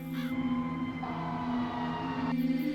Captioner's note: crows; fire engines